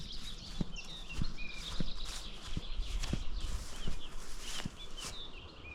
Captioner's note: birdsong